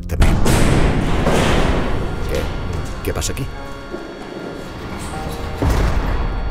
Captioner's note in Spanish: Golpes y ruidos